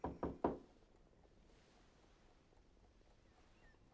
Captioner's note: knocking on door